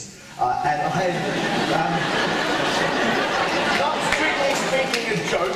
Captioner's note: audience laughter